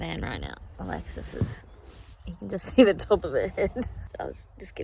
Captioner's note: laughs